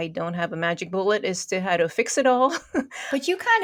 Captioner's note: laughing